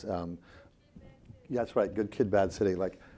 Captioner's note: audience muttering